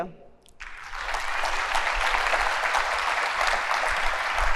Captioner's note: applause